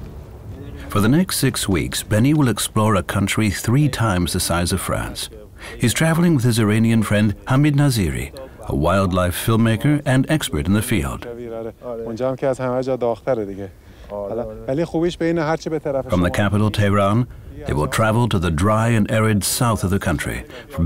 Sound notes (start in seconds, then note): 11.7 they speak Farsi